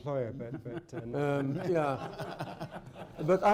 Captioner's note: laughter